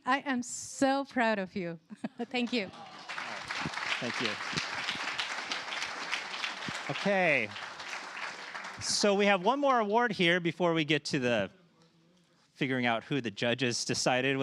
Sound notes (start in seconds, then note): 2.9 applause